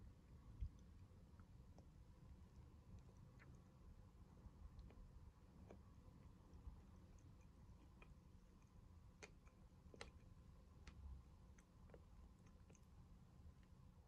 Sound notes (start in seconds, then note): 3.6 chewing